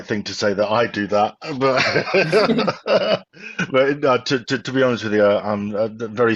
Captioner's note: laughs